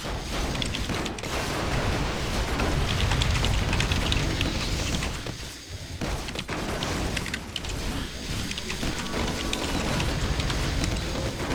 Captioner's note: typing sounds